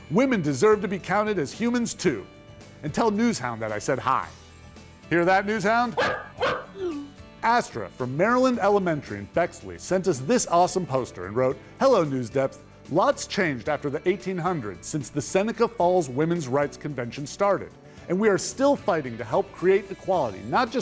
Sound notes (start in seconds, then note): 5.9 NewsHound barking